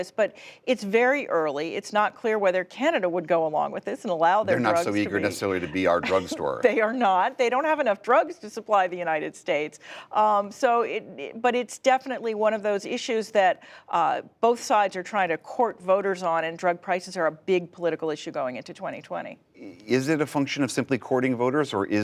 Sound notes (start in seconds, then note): 5.6 laughter